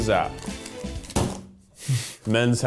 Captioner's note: bang